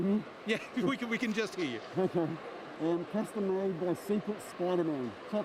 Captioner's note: laughs